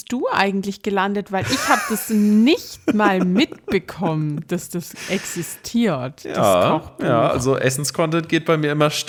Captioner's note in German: gelächter